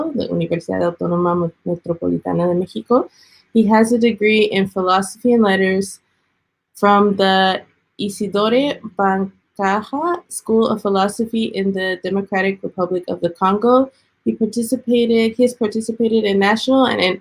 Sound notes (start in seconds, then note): 0.2 speaking Spanish; 7.2 speaking foreign language